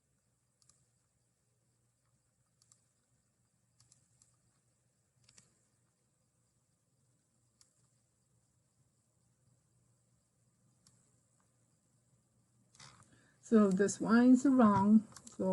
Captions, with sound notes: (mouse clickings) So these lines are wrong.